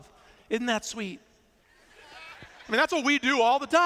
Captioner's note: laughter